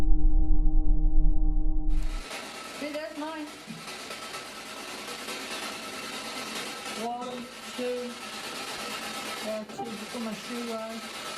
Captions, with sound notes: You see there's mine. [continuous crackling sound of the spirit box is heard] One two.